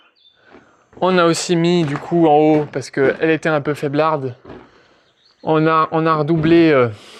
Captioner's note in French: grognement